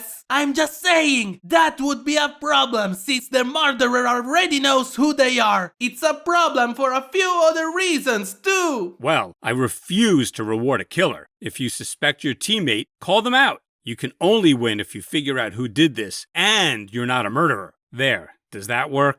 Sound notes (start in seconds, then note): none